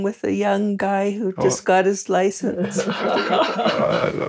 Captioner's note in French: rires